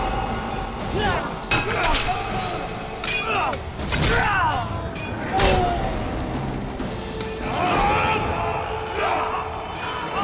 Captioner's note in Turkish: Dövüşme sesleri